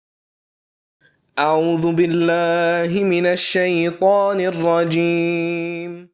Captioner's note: praying in foreign language